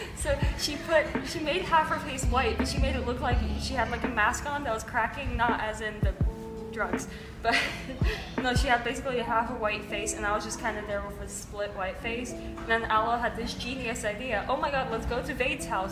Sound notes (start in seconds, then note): 7.5 laughs